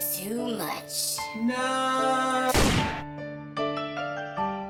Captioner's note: gunshot; touching music